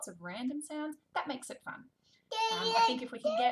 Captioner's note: babbling